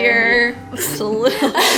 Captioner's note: laughs